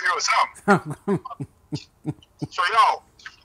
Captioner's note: laughing